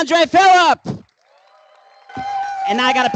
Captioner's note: applause